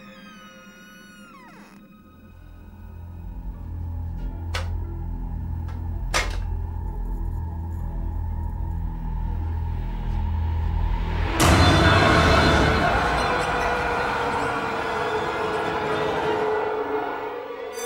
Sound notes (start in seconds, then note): 5.6 buttons clicking; 10.7 intense ominous music